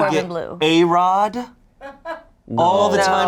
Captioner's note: crew member laughs